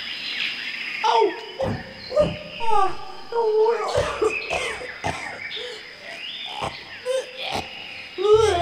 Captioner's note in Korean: 오구 으아으흐으아앆ㄱ그악